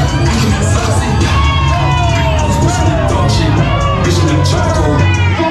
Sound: crowd cheers

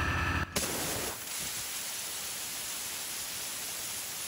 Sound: water hisses

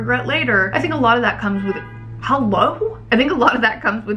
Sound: horn honks outside

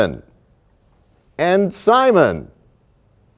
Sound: none

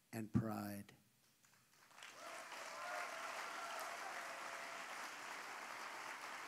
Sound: applause

